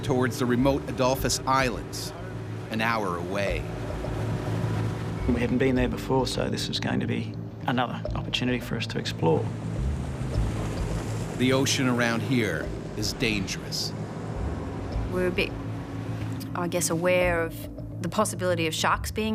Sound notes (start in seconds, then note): 12.1 voiceover